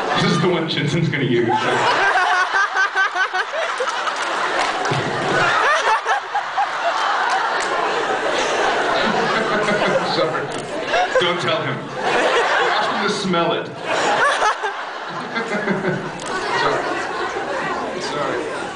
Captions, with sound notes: This is the one Jensen’s gonna use. [laughs] [laughs] I’m sorry. Don’t tell him. [laughs] Ask him to smell it. [laughs] [laughs] Sorry... sorry.